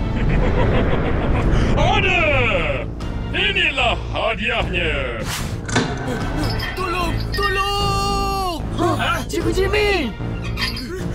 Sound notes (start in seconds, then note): 5.6 electrical thunk; 6.1 chain jangling